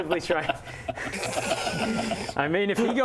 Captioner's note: unsubtle giggles